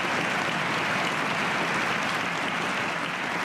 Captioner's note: cheers and applause